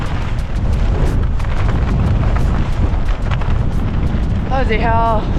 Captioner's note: wind